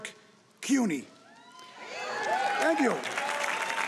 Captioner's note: audience cheering